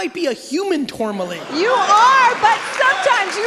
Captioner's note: audience applauding and laughing